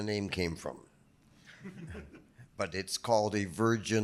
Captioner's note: audience chuckling